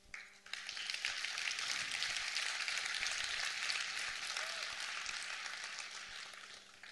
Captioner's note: applause